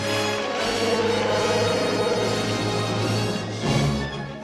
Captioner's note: Chewie roars